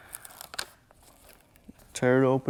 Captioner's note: materials shuffling